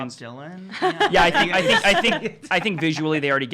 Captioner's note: laughing